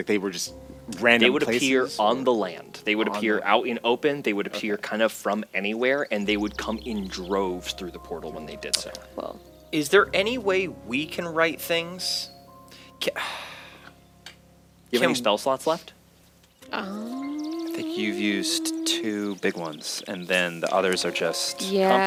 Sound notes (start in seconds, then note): 13.1 he sighs